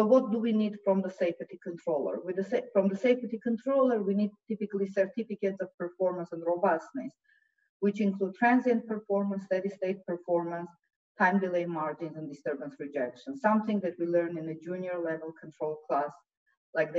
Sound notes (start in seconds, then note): none